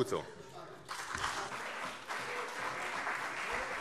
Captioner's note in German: Beifall CDU und Freie Demokraten - Zurufe DIE LINKE